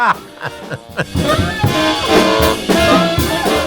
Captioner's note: laughs